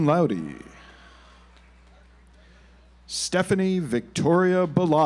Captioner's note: audience applauds